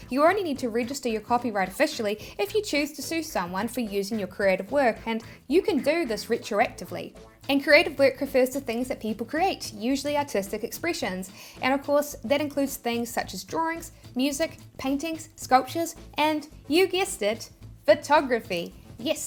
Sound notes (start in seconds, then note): none